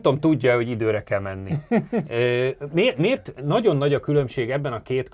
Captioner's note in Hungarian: nevetés